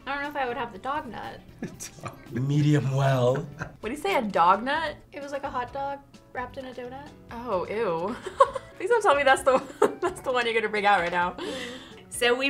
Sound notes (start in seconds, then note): 1.6 laughs; 8.1 laughs